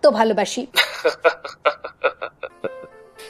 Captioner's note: laughs